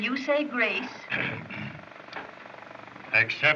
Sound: clearing Throat

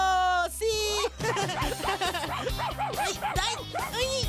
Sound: barking

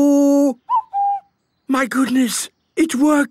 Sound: distant cuckoo

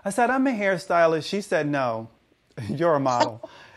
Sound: chuckles; laughs

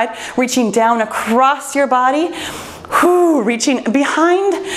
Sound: exhales

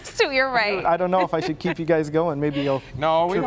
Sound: laughter

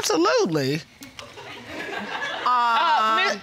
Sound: audience laughing

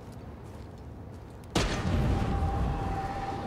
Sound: loud bang

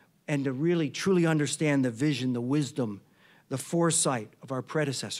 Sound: none

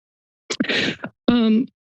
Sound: inhales

